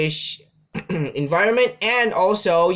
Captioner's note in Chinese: 咳咳